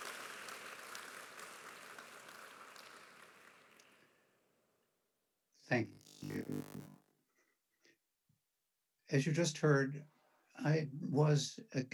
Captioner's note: applause